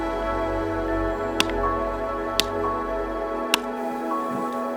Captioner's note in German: sanfte Instrumentalmusik geht weiter; Axtschlagen